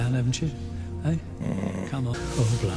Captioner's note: low, doubtful noise